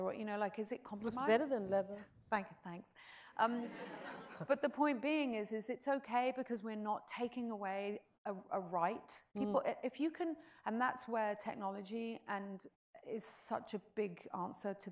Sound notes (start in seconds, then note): 3.7 audience chuckles